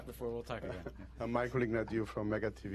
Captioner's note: laughter